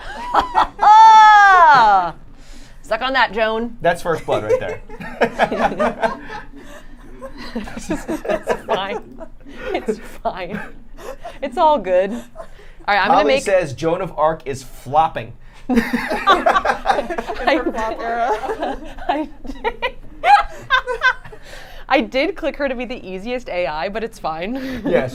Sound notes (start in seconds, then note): 0.0 triumphant laughter; 5.8 everyone laughing